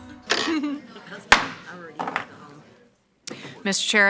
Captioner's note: gavel bangs